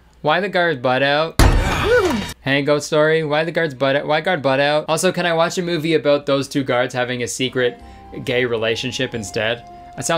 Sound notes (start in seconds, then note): 1.4 door thuds; 1.6 gasping